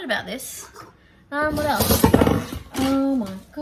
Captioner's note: clatters extra loudly